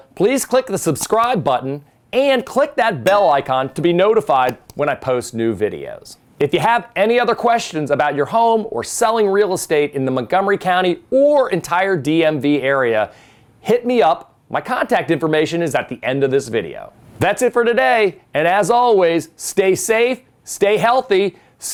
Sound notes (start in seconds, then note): 3.1 bell dings